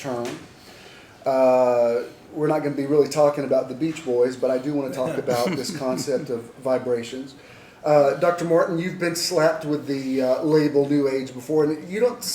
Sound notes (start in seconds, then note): 4.9 laughs